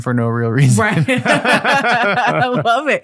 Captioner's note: both laughing